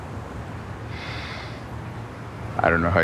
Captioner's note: inhales deeply